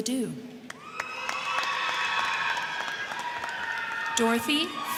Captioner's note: crowd clapping; crowd cheering